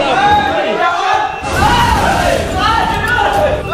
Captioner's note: screams